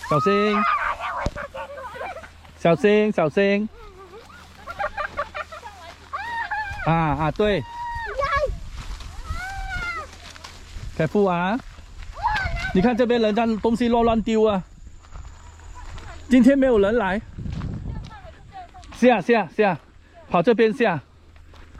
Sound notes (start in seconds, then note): 5.2 kids laughing